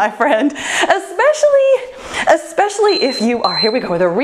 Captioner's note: timer beeps